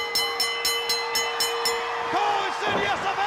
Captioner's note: bell ringing